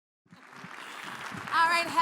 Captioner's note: audience clapping